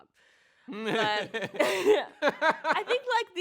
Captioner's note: both laugh; chuckles